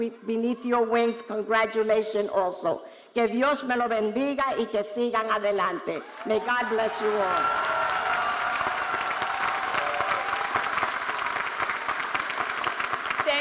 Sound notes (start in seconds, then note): 3.1 speaking Spanish; 7.8 audience cheering and applauding